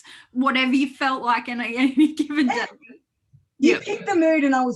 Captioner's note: laughs